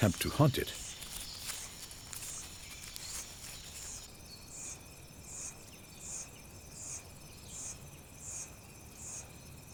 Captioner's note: birds chirping